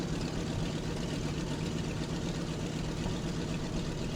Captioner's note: aircraft engines sounding